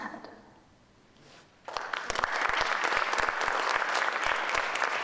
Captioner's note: audience applauding